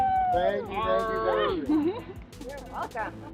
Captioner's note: drowned out by silly cheers